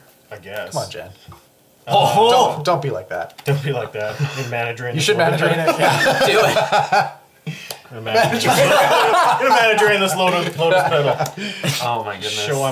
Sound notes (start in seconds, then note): 5.2 all laugh